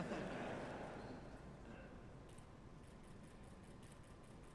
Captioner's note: laughter